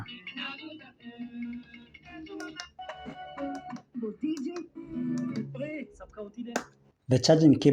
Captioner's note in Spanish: Sonido de estaciones de radio FM